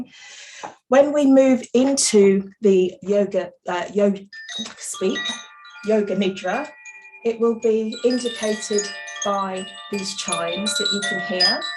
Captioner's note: chimes ring